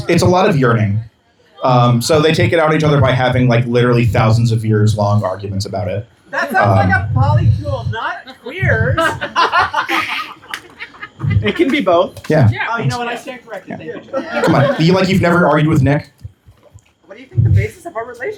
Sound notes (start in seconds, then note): 13.6 laughter